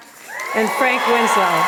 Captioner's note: applause and cheers